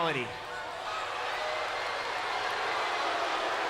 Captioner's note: crowd boos